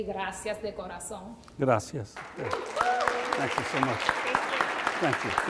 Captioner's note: speaks in Spanish; audience applauds